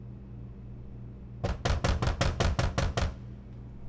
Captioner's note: loud knocking